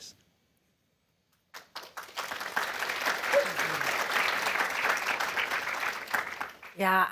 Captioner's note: applause